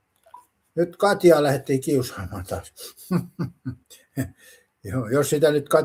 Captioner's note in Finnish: naurua